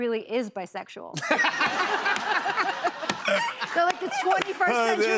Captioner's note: laughter